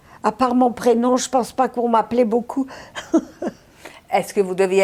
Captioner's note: laughing